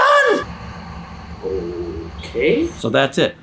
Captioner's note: traffic rumbling